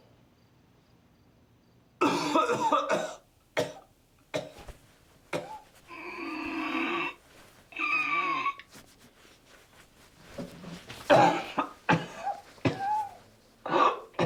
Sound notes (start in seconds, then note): 2.0 Rico coughing; 5.3 Rico gasping for air; 10.7 Rico coughing